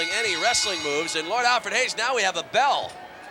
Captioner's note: bell rings